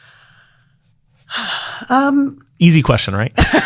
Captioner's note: exhaling